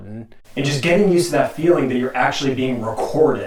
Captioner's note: audio echoing